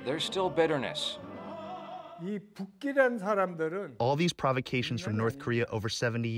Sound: through translator

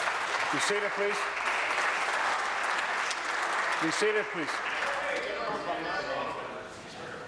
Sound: applause

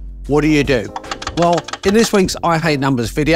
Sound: keys clicking

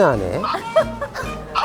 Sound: laughing

